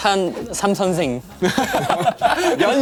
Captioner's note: haha / Haha / Haha